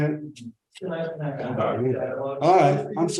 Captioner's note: students chattering